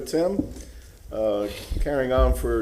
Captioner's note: gavel sounding